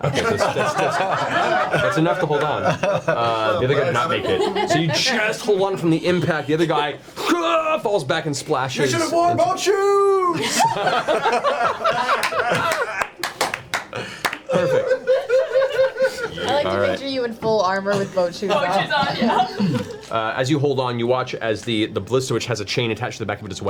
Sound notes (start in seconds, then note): 6.8 screams; 10.3 all laugh